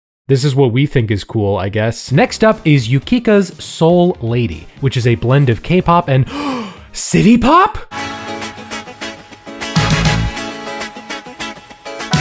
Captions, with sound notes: This is what we think is cool, I guess. I guess next up is Yukika's "Soul Lady," which is a blend of K-pop and (gasps) city pop? (upbeat music)